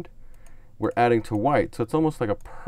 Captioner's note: clicks on mouse